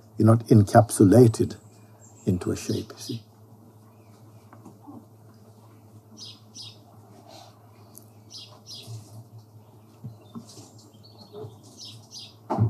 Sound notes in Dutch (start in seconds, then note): 6.7 stilte